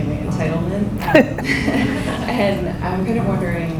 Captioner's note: audience laughs